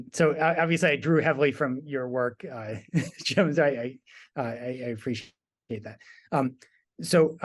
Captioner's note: laugh